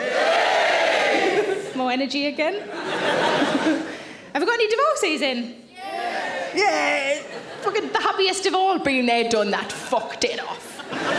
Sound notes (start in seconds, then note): 1.3 laughs; 2.6 audience laughs